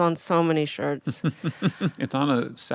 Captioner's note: laughing